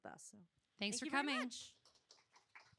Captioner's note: applause